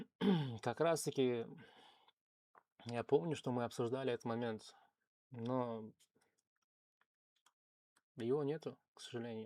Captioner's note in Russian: откашливается